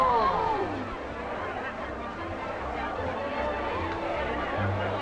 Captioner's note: group chattering; group gasping